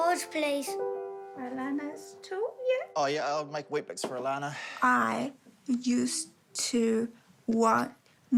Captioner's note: exhales